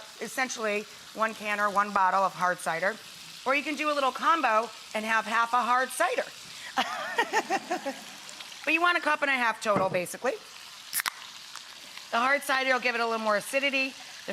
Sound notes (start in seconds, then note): 6.7 Rachael laughs; 10.2 can fizzes